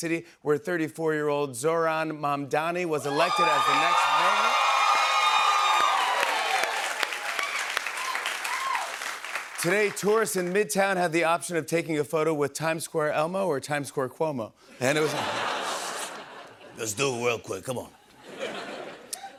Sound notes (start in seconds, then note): 4.9 cheers and applause; 15.5 inhales sharply